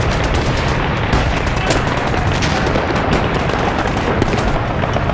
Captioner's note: guns firing